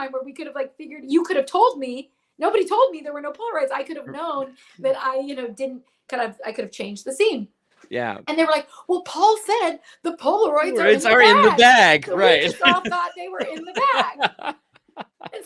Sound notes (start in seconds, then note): 10.8 laughs